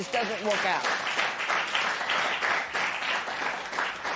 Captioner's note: applause